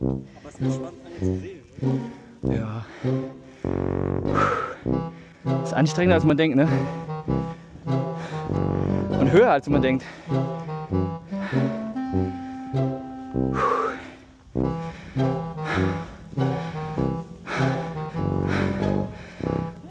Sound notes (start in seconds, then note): 0.3 speaking German; 4.2 exhale; 6.6 panting; 14.6 panting